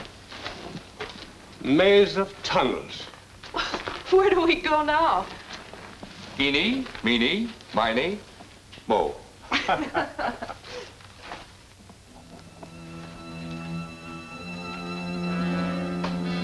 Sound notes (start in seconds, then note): 4.1 laughs; 9.5 Davidson and Diana laugh; 12.1 sinister orchestral music